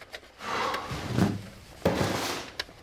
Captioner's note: hawk sighs